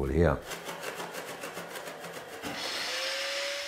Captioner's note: rattling